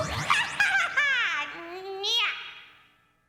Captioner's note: chuckling